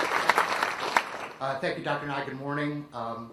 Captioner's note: applause